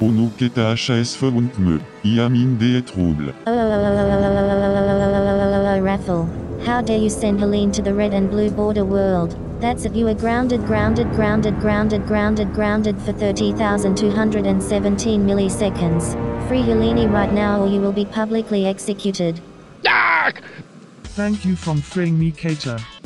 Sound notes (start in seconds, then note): 19.9 sci_hurt1.wav